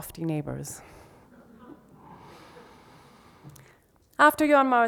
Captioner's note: audience laughs